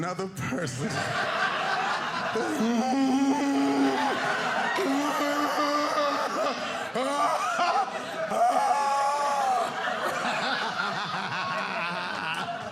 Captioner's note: groaning